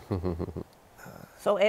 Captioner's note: chuckles